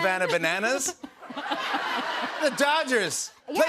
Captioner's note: laughter